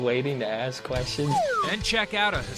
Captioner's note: slide whistle